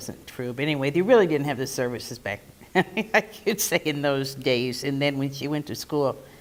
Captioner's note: laugh